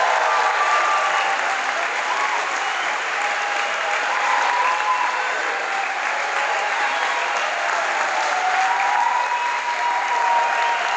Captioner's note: crowd Applause